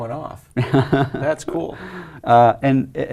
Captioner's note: laugh